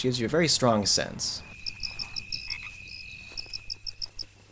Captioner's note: insects chirping